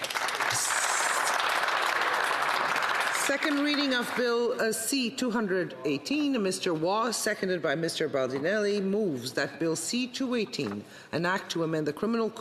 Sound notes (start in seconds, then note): 3.3 applause